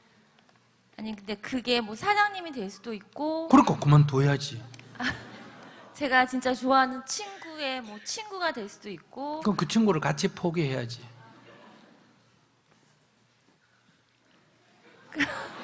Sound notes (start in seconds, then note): 4.9 audience Laughter; 14.7 questioner/Audience Laughter